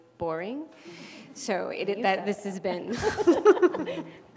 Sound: laugh

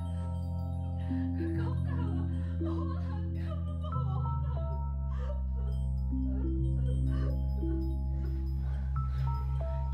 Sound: more sobs

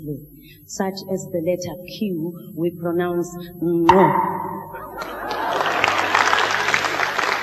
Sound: postalveolar click

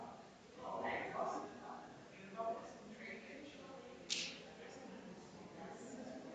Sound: people chattering distantly continues

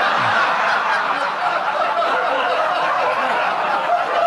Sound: audience laughing

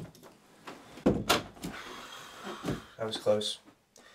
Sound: exhales

